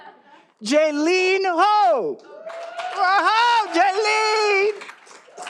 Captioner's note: all applauding